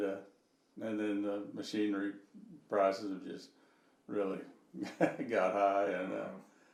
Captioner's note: chuckling